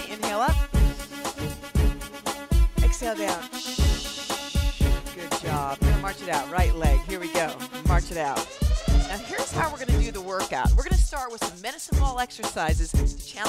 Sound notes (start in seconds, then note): 3.7 hissing